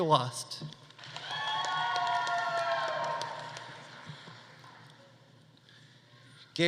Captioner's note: audience applauding; audience cheering